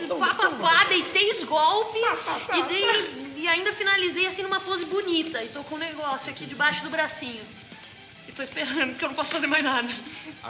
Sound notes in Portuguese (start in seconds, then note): 2.6 imitando a Carina